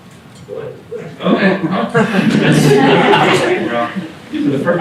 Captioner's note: laughter